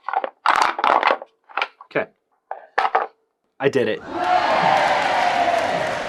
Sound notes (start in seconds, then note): 4.0 cheering